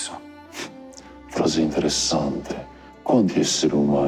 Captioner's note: scoffs